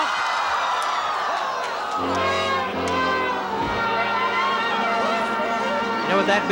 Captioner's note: groaning; jeering band music